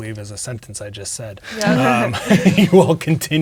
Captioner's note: laughing